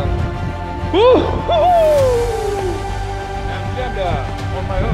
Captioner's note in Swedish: Cheering